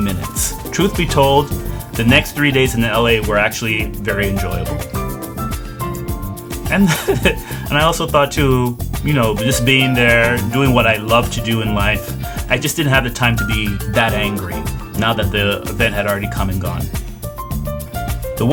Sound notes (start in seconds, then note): 6.7 laughs